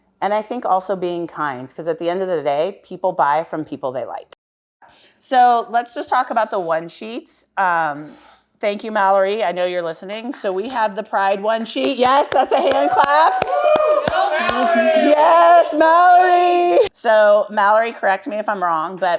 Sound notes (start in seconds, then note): 12.4 cheering